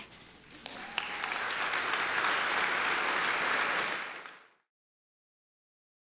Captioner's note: audience applause